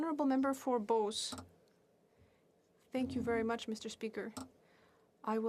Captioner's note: speaking French